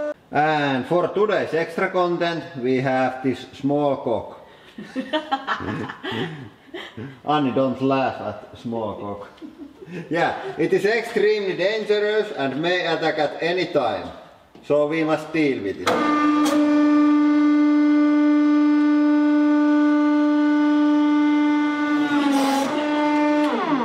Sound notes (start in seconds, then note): 4.7 both: Laughing; 9.2 stifled chuckling